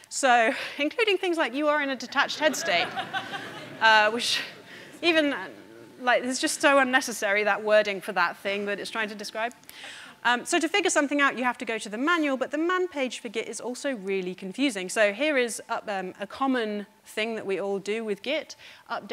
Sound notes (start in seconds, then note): 2.2 audience laughing